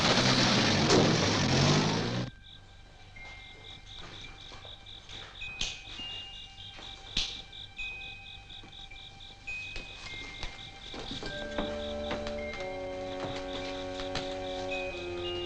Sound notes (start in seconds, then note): 1.3 soft, suspenseful music; 5.2 snapping